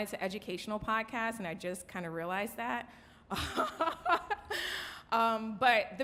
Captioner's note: laughs